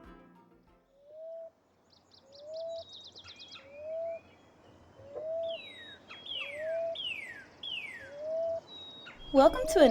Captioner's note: sound of birds singing